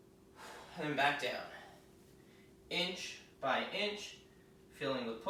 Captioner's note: exhaling